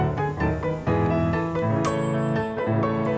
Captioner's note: oven dings